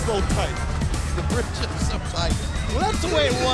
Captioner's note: laugh